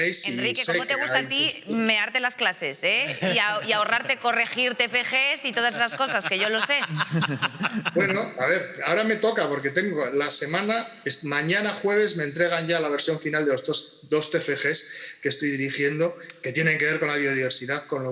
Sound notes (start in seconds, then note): 5.5 he laughs